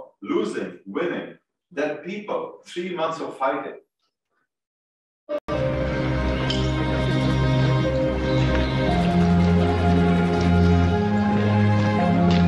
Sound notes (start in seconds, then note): 5.2 footsteps banging; 5.4 unsettling classical music